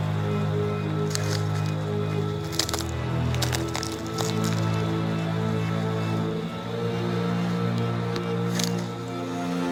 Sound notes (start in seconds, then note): 2.3 footsteps; 6.7 spooky music